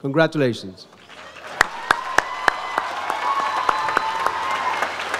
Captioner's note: audience applauds